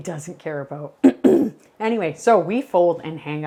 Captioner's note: clears throat